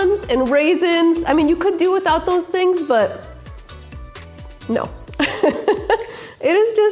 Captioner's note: laughs